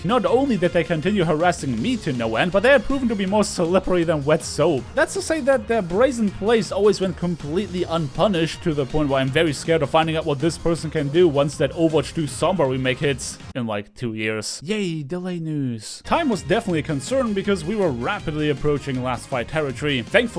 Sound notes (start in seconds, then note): 15.2 Sarcastic